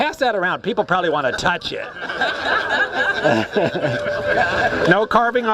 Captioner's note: laughs